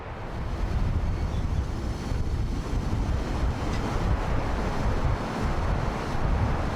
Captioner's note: train passing